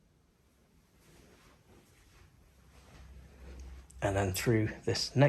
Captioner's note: footsteps rustling